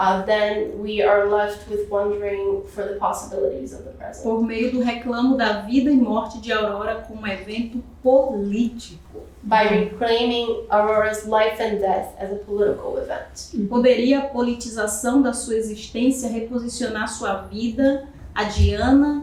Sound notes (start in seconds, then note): 5.2 speaking portuguese; 14.5 speaking portuguese